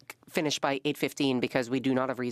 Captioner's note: speaking French